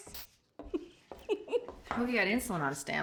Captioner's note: giggling